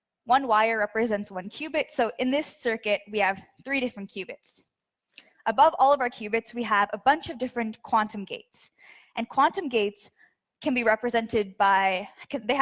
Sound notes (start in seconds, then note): none